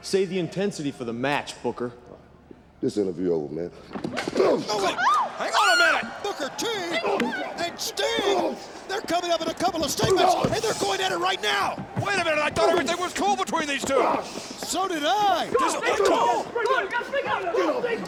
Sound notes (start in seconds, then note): 4.2 punch thuds; 5.0 interviewer yells